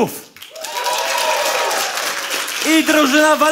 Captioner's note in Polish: oklaski publiczności